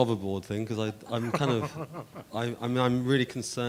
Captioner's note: laughing